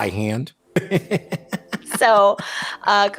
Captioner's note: laughing